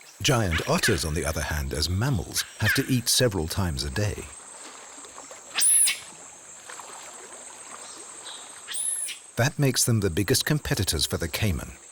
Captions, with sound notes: Giant otters, on the other hand as mammals, have to eat several times a day. (otter chirping) That makes them the biggest competitors for the caiman